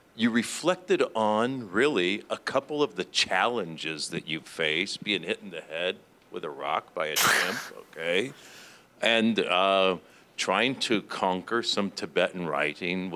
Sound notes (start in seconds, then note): 7.2 laughing